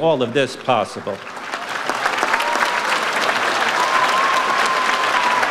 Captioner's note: audience applauds